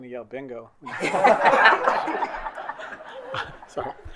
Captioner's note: colleagues laughing